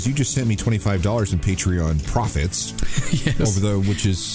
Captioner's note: laughing